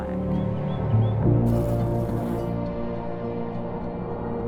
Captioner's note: bee buzzes